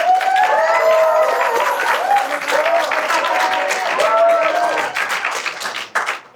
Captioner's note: applause in support of the youngest as he kicks it off under pressure